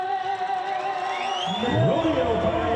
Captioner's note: crowd cheering